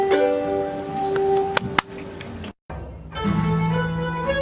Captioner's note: people clap; lively bluegrass music